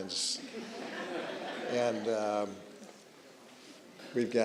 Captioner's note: audience chuckling